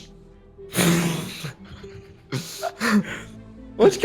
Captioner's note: laughs